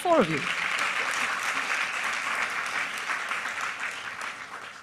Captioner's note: applause